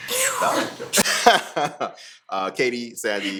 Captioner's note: laughing